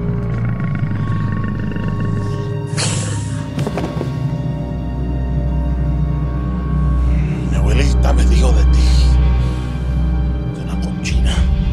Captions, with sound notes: (dramatic music) - (foreign language) mi abuelita me dijo de ti, una cochina,